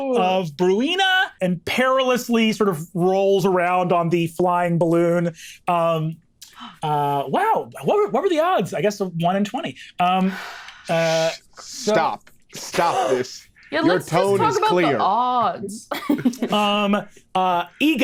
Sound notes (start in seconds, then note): 10.8 Lou sighs; 15.9 chuckles